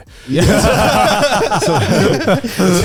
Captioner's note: all laughing